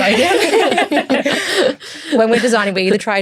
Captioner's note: everyone laughs